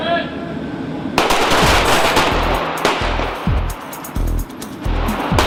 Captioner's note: weapons firing